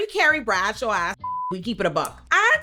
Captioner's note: beep